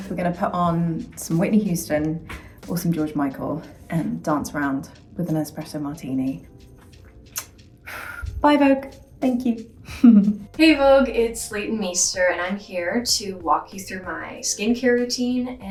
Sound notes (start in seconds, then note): 6.8 lip smacking; 7.1 gentle upbeat music